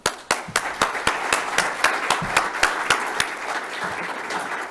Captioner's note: applause